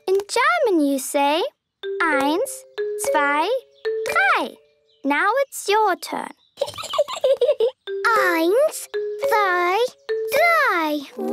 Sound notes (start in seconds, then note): 6.6 Peppa giggling